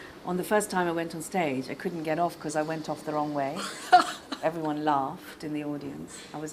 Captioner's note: laughs